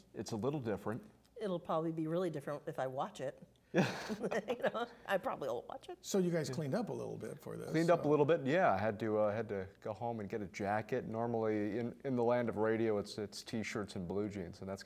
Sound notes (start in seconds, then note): 3.8 laughing